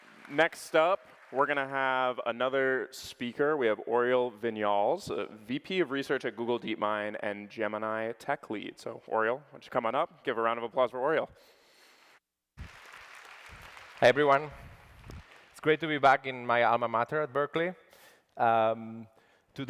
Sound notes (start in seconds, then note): 12.6 applause